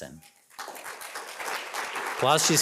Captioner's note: audience applauding